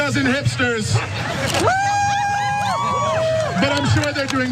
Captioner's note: applause